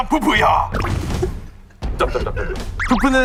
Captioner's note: the original writer can't stop laughing